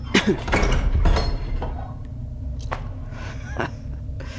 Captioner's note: footsteps; chuckle